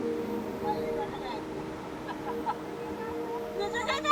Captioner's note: laughing